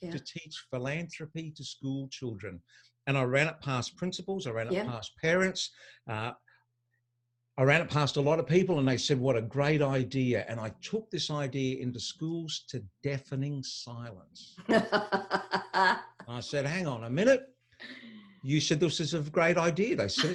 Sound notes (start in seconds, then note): 14.7 laughing